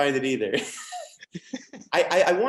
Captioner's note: laughs